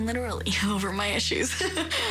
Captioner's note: laughs